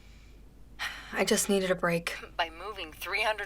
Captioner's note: sighs